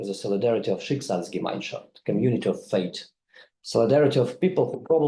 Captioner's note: speaks in foreign language